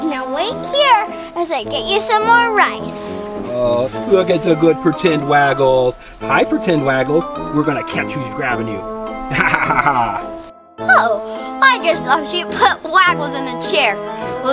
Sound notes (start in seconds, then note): 9.2 laughs